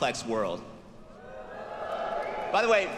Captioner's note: students cheering